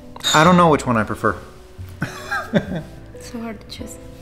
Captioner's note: laughs